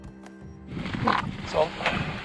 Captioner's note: farting